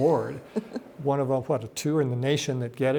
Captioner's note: laughs